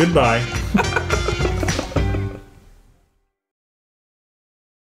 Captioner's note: group laughter